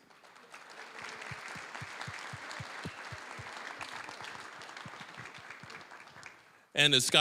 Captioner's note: applause